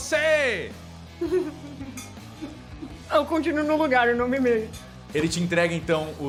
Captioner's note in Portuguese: riso